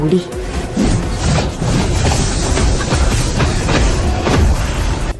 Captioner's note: sound of fighting, blade and flesh